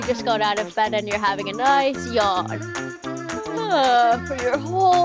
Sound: yawns

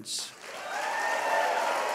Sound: applause

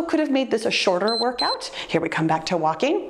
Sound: timer beeps

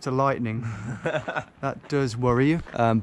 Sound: laughing

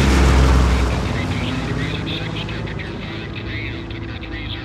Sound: pilot radio Chatters

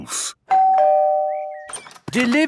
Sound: door bell ringing

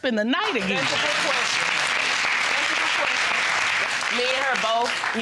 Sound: audience applauding

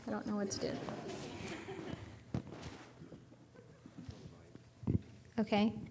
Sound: audience laughing

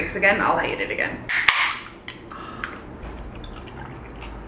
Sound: Olipop cracks

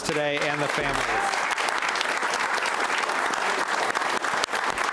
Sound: audience applauds

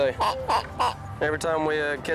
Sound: pig oinks

